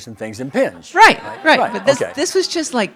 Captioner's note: audience laughing